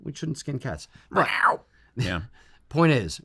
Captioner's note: cat noises